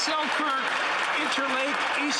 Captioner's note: some Applause